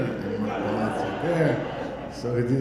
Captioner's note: audience laughing